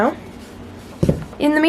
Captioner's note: thud